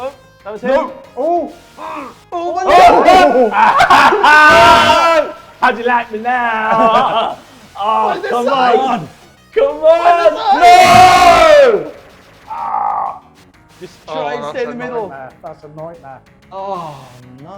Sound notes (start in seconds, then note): 0.1 men shouting and laughing; 9.6 men shouting